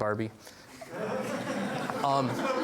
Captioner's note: laughs from audience